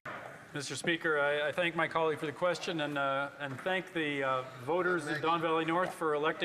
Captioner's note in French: voix de l'interprète